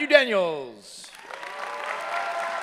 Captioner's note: cheering